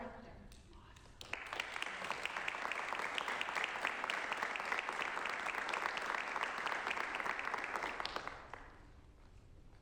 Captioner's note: applause